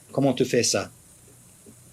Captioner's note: speaks in French